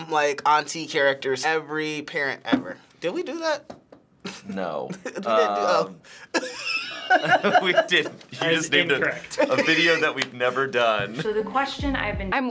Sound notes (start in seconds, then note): 4.2 chuckles; 4.2 laughs; 7.0 chuckles